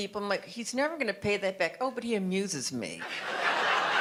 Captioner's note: audience laughter